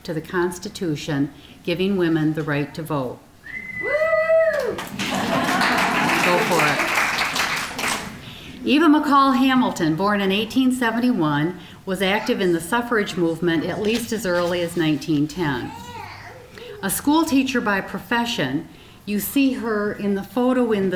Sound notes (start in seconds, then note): 4.5 applause; 4.9 audience laughing